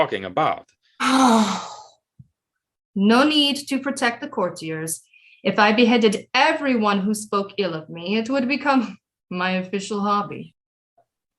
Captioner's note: sighs